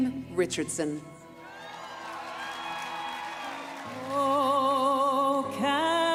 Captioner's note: speaking French